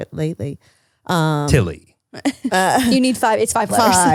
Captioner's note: laughs